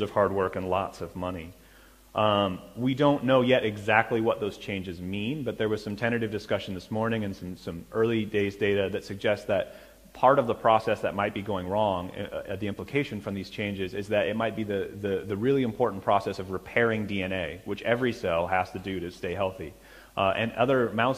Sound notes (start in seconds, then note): none